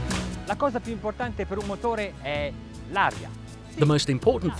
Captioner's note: speaking foreign language